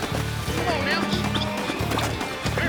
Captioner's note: whistling